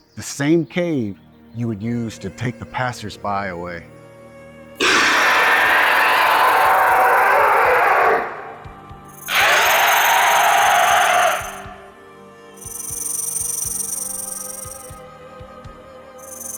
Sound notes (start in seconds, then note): 4.8 snake growls; 4.8 snake screeches